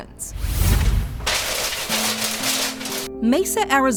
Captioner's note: air whooshes